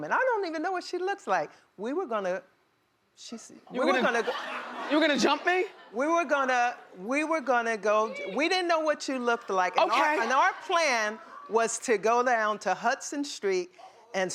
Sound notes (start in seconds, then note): 3.7 laughing